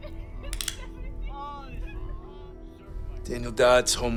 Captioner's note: gun cocks